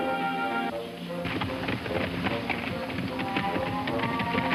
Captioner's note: hooves clopping